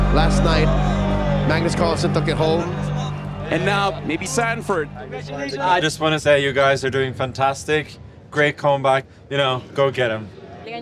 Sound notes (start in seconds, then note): 4.8 indistinct chatter